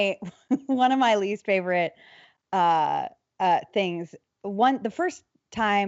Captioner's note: laughs